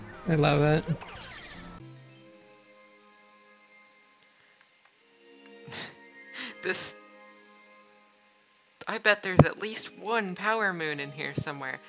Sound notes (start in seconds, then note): 5.6 laughing; 5.7 chortle